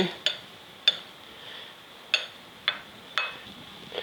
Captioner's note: glass tapping